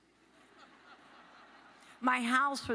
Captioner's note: audience laughs